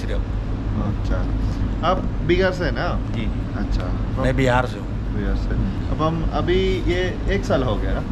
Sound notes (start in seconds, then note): 0.9 conversation in Hindi